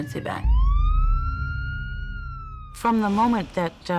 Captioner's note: siren wails